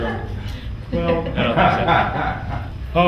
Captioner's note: all laugh